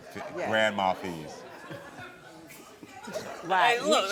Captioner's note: audience laughing